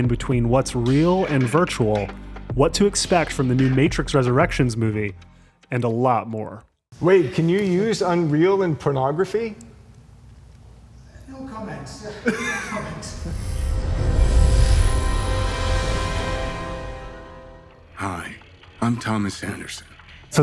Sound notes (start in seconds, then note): 12.0 man laughs; 13.2 logo swooshes